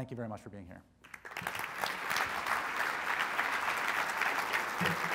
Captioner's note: crowd applauds